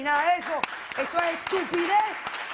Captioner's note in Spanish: Aplausos